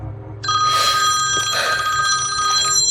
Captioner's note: phone rings